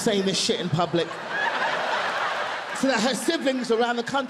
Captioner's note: audience laughing continues